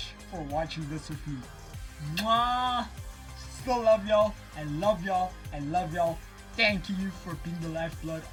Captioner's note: kiss